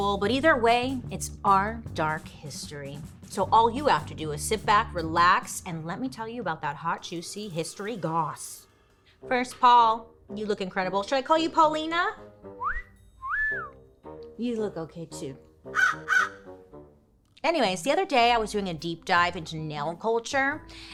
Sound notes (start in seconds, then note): 13.2 cat call whistling; 15.7 crow cawing